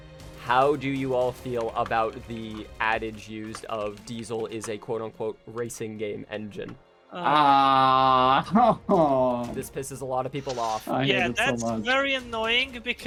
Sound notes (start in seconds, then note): 7.1 sounds of pain